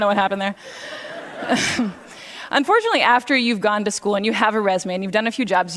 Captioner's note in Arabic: ضحك; ضحك